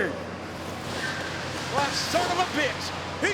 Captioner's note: tires screeching